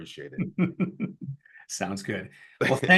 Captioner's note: laughs